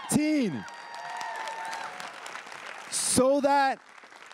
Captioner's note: everyone cheering and applauding